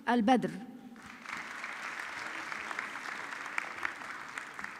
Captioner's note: audience clapping